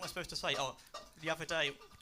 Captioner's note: clanging